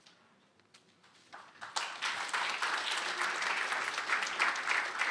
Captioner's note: applause